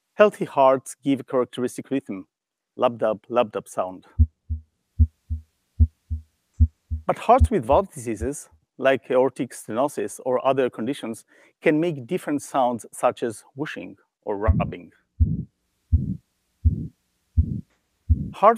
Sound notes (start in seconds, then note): 4.0 regular heartbeat; 14.8 swooshing heartbeat